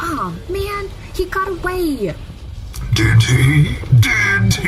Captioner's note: laughing